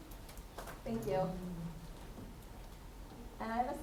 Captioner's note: attendee Through Translator